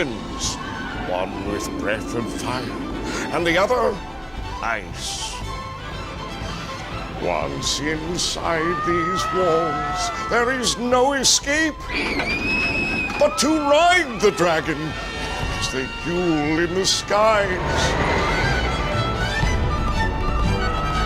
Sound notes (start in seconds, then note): 0.3 riders screaming; 11.8 riders screaming; 17.7 riders screaming